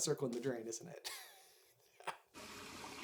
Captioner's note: chuckles